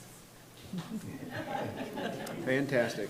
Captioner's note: attendees and board members chuckling